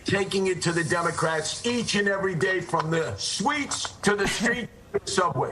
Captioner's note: laughter